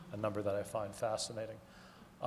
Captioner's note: none